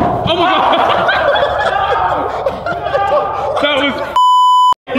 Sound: all laughing

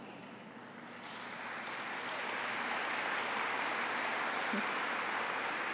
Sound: applause

